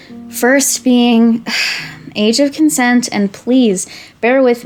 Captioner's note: sigh